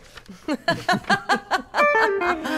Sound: laughs; guitar riff

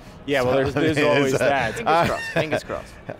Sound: laughs

